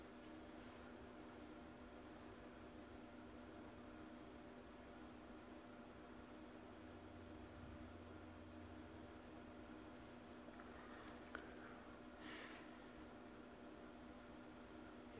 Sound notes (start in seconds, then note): 12.2 sighs